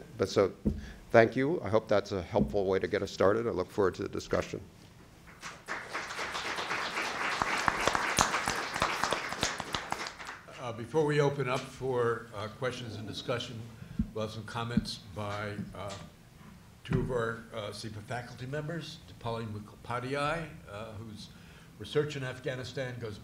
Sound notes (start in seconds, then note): 5.3 applause